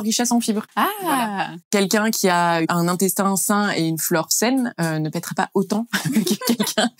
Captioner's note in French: rires